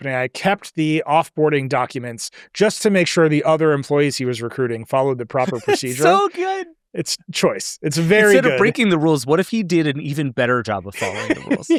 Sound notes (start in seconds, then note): 5.4 laughs; 10.9 laughs